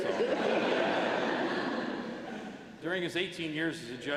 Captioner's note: laughter